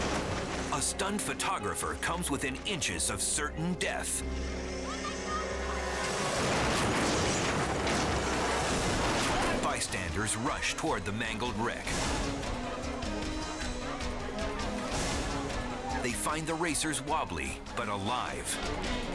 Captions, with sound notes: A stunned photographer comes within inches of certain death. (car crashing) Bystanders rush toward the mangled wreck. (suspenseful music) They find the racers wobbly, but alive.